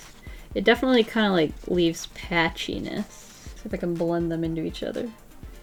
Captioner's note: none